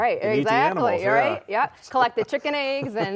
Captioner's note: laughs